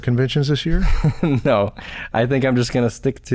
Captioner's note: chuckles